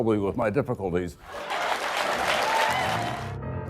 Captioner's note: laughter and applause